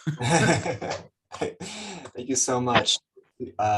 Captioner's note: laughs